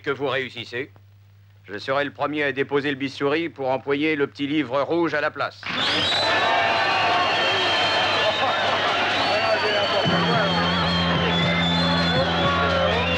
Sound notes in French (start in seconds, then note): 5.6 applaudissements et sifflets de protestation